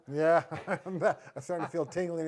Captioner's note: laughing